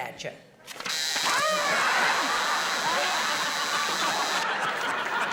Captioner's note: long buzzing